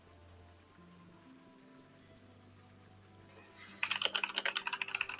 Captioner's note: game music; rain falling; game music